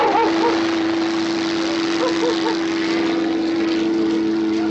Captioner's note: barking continues; helicopter whirring